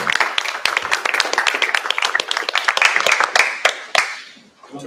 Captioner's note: applause